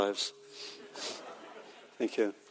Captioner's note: audience laughing